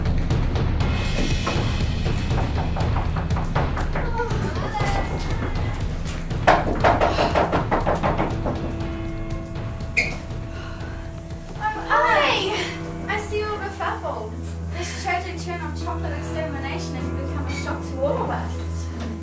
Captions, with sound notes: *knock on door* Pickers: Oh Alice! *continued knocking* *louder knocking* Picker 1: Oh Alice Alice: Hi Picker 1: I see you're all befuffled This tragic turn of chocolate extermination has become a shock to all of us